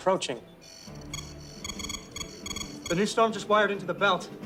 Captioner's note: machine beeps